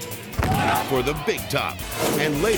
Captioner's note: person thuds